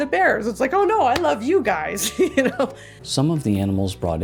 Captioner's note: laughs